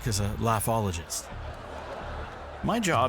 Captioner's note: audience laughing